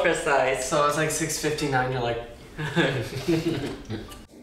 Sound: chugs drink

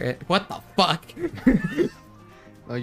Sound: wheeze; giggle

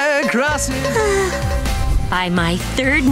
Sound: swooning

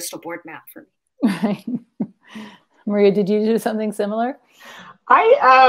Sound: laughs

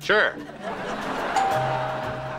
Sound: doorbell ringing

